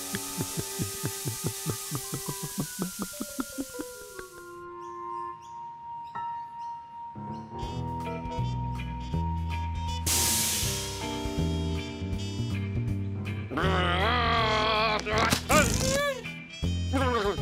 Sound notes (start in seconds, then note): 0.6 water draining; 14.4 growling